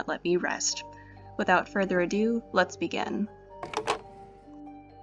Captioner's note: phone being hung up